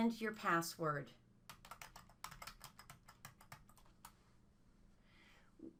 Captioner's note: typing on keyboard